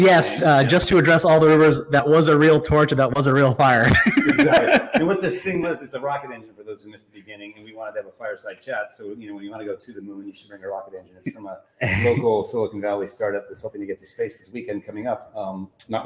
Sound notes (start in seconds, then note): 3.8 both laughing